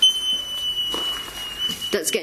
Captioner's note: beeping